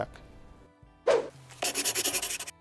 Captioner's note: whooshing; scribbling